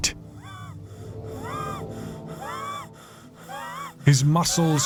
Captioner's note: Jacob breathing heavily